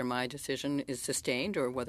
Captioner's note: speaking French